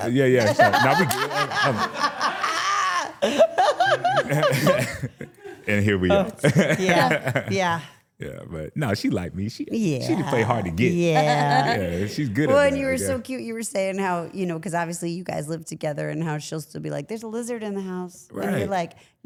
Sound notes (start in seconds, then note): 0.4 laughing; 4.8 laughs